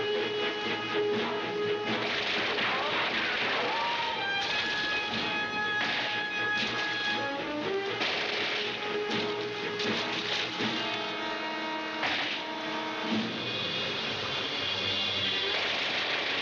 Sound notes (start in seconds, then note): 2.8 gunshots